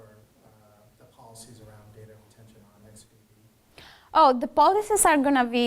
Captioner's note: speaks faintly